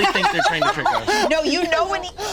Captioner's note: laughs